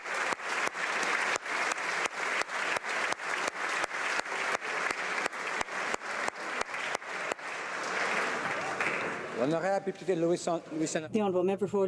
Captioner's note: applause